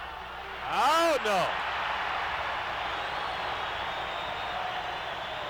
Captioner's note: audience cheering